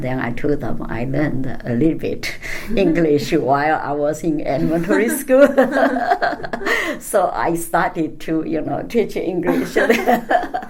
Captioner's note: laugh; all laugh